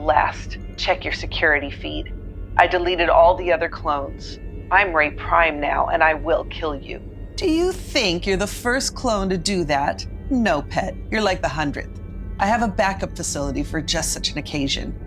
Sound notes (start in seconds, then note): 6.8 condescending